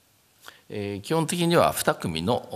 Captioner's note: speaking japanese